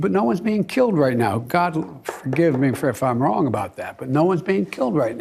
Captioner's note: knuckles knocking